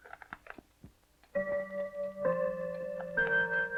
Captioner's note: clock chiming